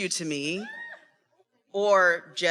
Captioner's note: attendee cheering